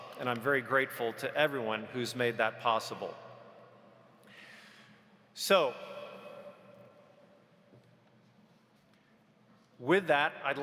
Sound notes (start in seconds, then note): none